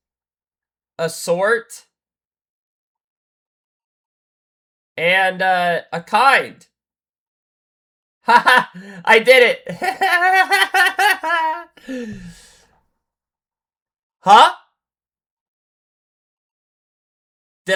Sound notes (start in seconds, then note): 9.6 laughter; 11.7 gasps